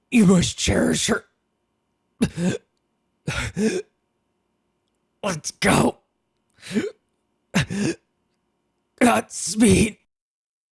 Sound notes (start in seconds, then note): 3.2 catching fleeting air; 6.6 takes in one last breath